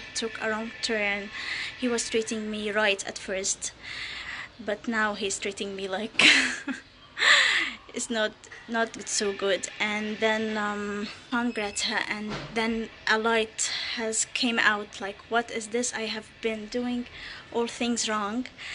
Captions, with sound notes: took a wrong turn. He was treating me right at first but now he's treating me like (chuckling), it's not so good. And then from Greta, and then a light has came out, like what is this? I have been doing all things wrong.